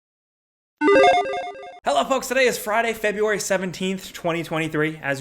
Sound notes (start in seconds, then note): 0.8 game tone chiming